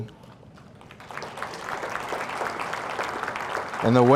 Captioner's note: audience applauding